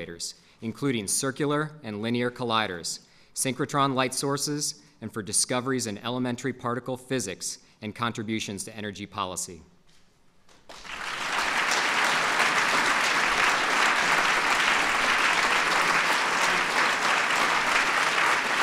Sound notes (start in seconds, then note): 14.6 applause